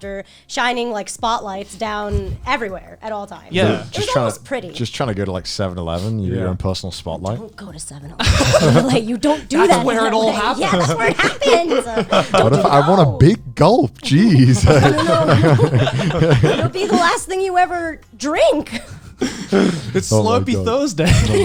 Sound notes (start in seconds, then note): 8.2 guys laughing; 14.1 all laughing